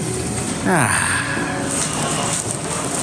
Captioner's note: sighing